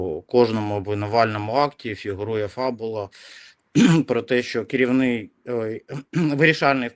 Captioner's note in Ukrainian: прочищення горла